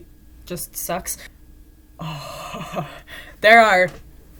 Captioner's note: laughing